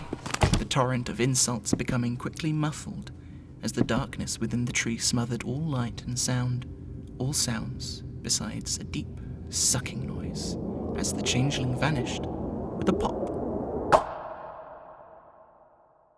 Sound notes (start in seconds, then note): 13.9 pop